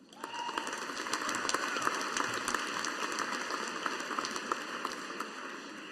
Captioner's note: audience applauding